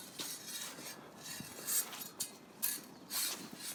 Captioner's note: swords scraping